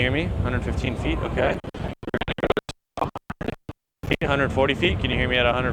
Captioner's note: crackles